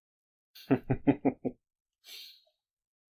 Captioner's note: slight chuckle